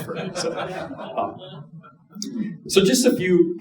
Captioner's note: audience laughing